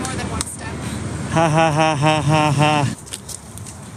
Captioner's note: fake laughter